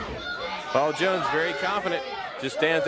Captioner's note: crowd chatter